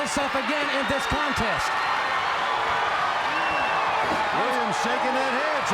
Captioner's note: crowd cheering